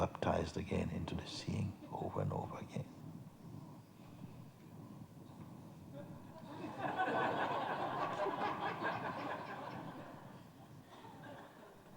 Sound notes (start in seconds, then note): 6.4 laughter